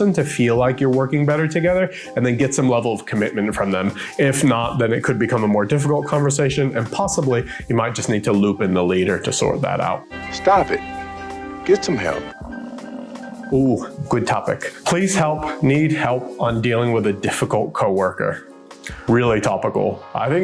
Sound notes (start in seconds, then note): 12.0 buffalo grumbling